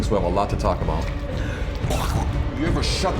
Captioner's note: coughing